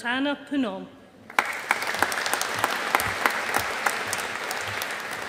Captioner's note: audience applauding